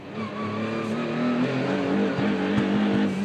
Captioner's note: car engine stuttering